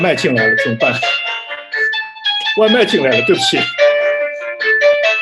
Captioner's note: ringtone in the background